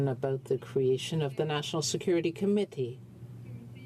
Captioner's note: speaking in french